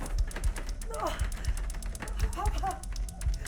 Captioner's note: Sue grunts; Sue muttering